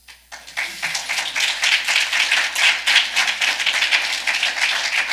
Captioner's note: audience clapping